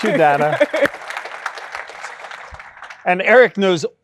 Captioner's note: applause